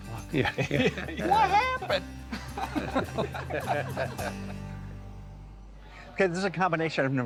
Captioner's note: all laughing